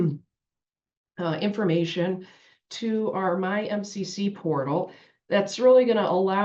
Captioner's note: cough